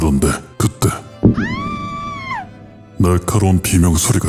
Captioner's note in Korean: 비명 소리